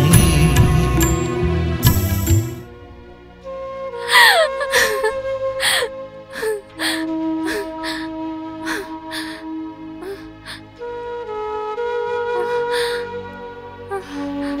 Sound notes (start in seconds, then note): 4.0 crying